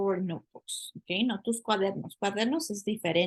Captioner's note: speaking spanish